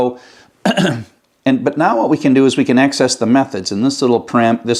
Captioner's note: cough